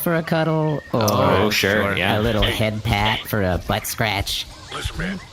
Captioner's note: hushed